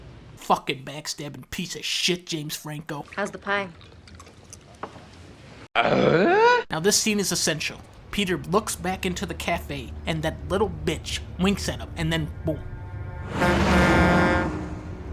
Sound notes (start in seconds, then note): 5.7 Tim Allen's Home Improvement Grunt; 13.1 honking